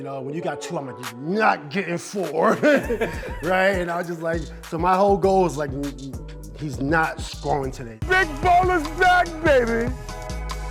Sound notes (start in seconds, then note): 2.4 laughing